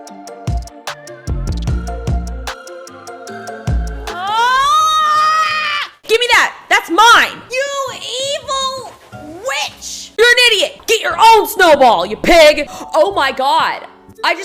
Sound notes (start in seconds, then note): 0.0 mellow hip hop music; 4.1 screaming